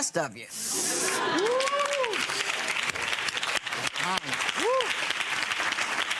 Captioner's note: audience laughing and applauding